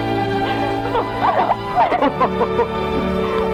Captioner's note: both laughing